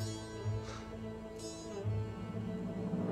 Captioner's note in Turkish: Nefes sesi